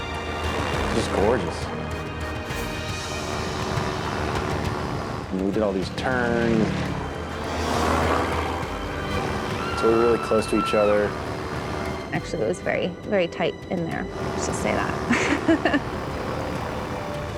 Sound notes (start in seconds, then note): 7.5 airplane engine roaring; 14.7 laughs